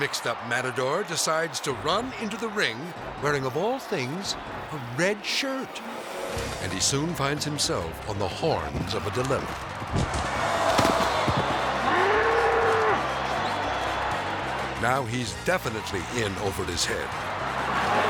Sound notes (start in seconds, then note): 10.0 crowd oohing; 12.0 bull roaring